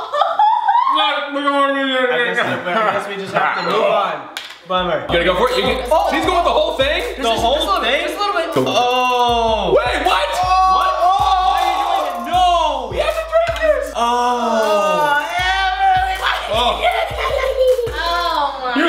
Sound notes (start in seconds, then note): 0.0 laughs; 14.0 groans of disbelief